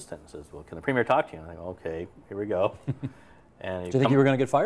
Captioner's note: laughs